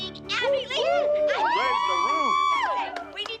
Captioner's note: cheering